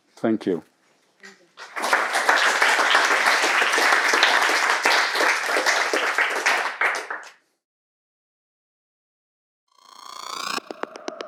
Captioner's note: applause